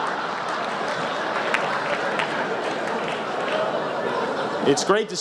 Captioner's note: laughter